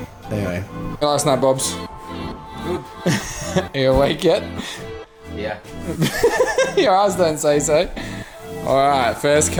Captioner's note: laughs